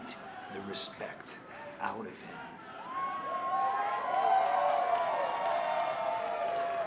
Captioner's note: crowd cheering